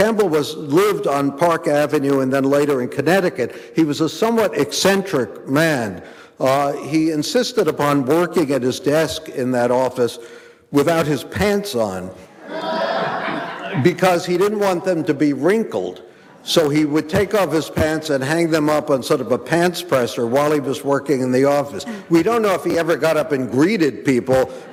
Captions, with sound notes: Campbell lived on Park Avenue and then later in Connecticut. He was a somewhat eccentric man. He insisted upon working at his desk in that office, without his pants on, (audience laughing) because he didn't want them to be wrinkled. So he would take off his pants and hang them up on sort of a pants presser while he was working in the office. We don't know if he ever got up and greeted people